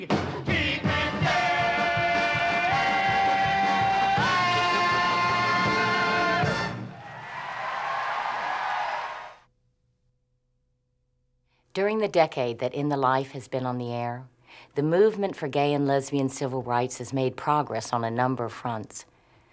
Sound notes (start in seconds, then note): 6.9 audience clapping